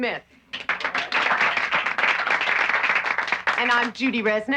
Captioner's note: applauding